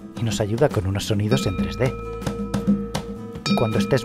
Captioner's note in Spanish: none